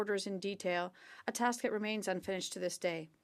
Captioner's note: speaking French